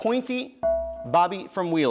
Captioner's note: bell rings